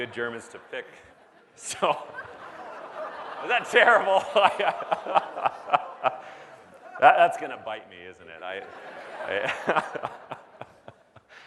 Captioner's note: laughs; laughs